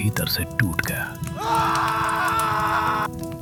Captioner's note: screaming